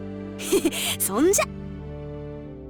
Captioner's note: chuckle